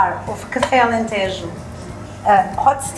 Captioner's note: speaking in foreign language